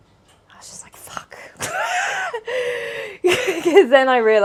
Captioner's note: laughs